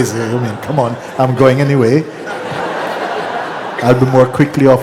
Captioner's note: laughter